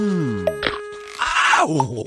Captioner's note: cracking Sound